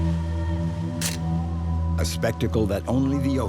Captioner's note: camera snapping